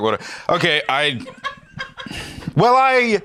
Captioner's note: laughs